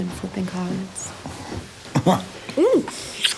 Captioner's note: chuckling